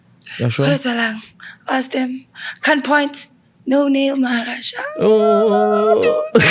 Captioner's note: chanting